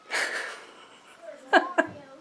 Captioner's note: laughing